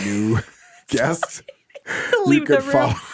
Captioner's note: laughing